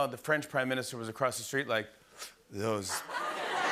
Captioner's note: imitates puffing cigarette; laughter